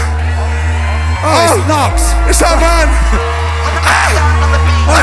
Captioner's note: chuckles